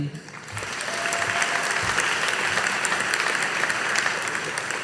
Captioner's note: audience applauding